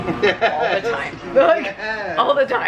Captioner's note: laughs